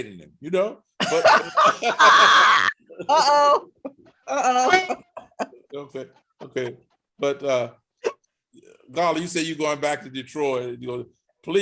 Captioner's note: laughing